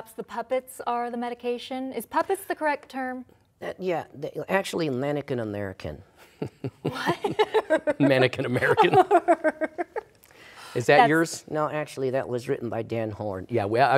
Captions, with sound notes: -Perhaps the puppets are the medication. Is "puppets" the correct term? -Yes. Actually, Mannequin American. (laughter) Mannequin American. Is that yours? -No. Actually, that was written by Dan Horn.